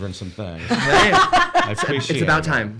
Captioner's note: laughing